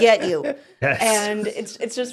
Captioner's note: laughing